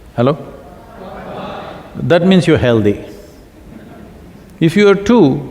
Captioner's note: few laugh